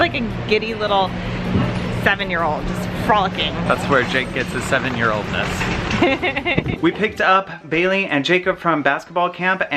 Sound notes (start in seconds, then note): 5.8 laughs